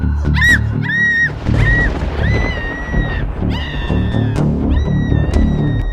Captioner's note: woman screams; thunder claps